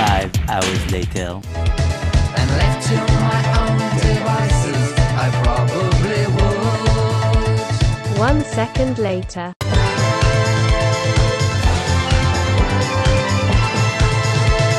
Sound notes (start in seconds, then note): 8.3 automated Voice; 9.9 upbeat music